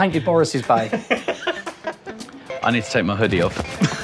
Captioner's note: laughing